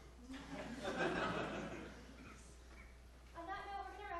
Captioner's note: audience laughing